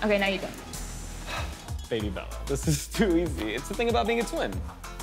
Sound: sighs

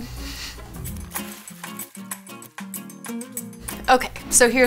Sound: bright music; water splashes

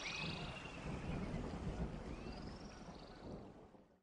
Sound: thunder cracking

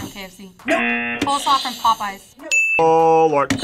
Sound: buzzer; buzzer rings

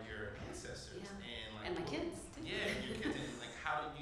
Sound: voice Low

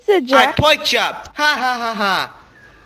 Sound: laughing

